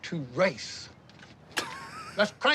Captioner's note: laughs